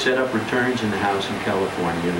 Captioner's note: none